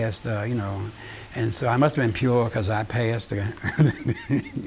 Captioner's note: laughing